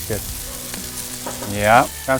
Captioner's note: sizzling